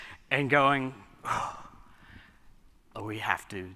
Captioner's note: sighs